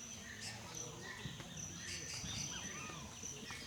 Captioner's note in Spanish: canto de los pájaros